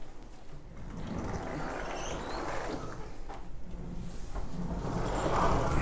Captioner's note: windows sliding on track